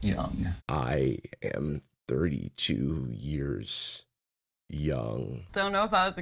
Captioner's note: heavy vocal fry